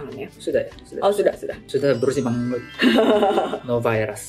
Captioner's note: laughs